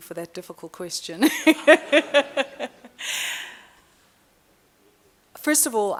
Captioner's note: laughing